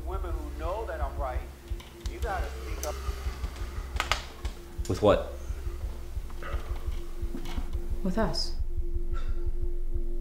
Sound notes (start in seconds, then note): 3.9 sigh